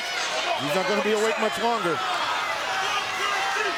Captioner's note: crowd cheering